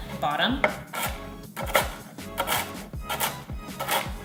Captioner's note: crunching